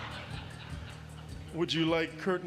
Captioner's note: laughter